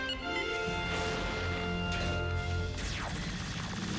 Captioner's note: beeps